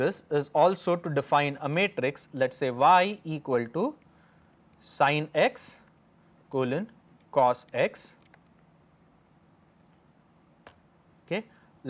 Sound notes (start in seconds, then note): 5.8 click